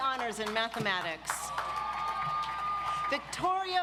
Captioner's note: audience applauds